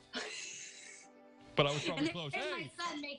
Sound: laughter

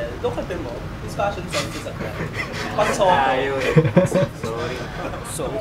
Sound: giggles

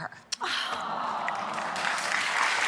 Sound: audience applauds

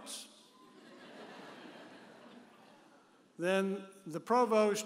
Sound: audience laughing

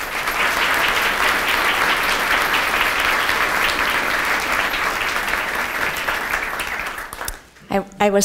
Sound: applause

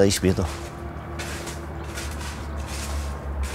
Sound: distant street noise

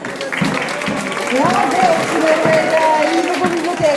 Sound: ecstatic applause from the audience

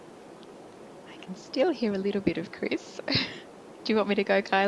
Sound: chuckling

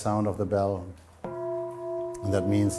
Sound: bell

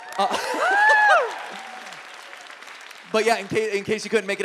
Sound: audience applauds

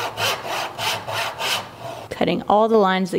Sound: rasping

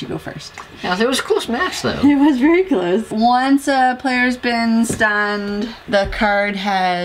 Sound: laugh

